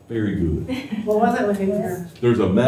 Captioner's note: laughter